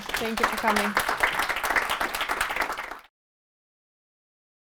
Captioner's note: audience applauding